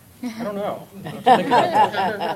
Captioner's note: laughter